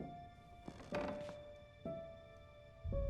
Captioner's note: footsteps; floor creaks